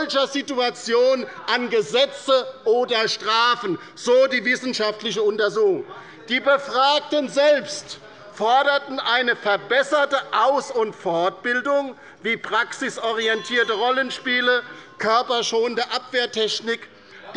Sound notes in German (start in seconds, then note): 13.2 Unruhe - Glockenzeichen des Präsidenten